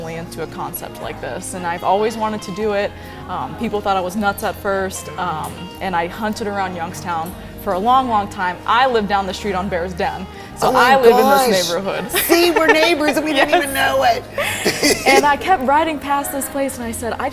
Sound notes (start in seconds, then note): 13.8 both Laughing